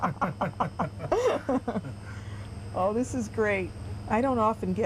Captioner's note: laughter